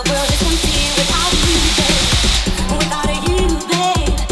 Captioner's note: vapor hisses